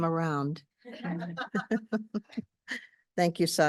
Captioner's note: audience laughing